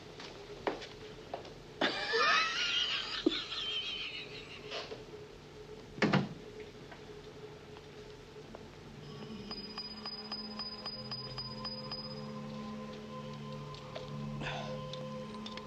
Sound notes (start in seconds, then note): 1.8 Sam laughs; 9.0 pinging sound